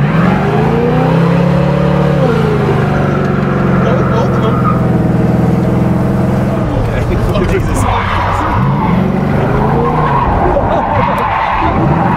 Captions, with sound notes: (car revs) - Both of them. (car revs) (tires squeal)